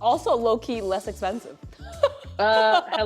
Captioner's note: laughs